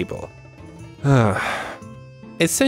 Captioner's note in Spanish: Suspiro